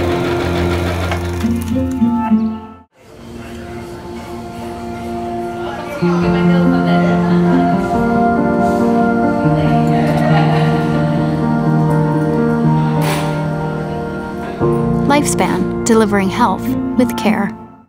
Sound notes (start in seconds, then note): 0.0 sewing machine whirring; 3.7 chatter